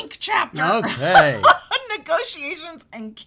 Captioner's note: laughs